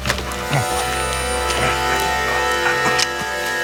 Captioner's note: gasping